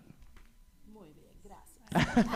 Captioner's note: speaking spanish; laughter